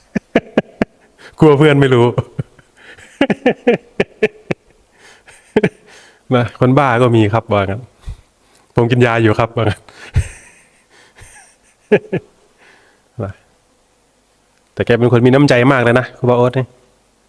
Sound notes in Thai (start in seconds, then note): 0.2 เสียงหัวเราะ; 12.0 เสียงหัวเราะ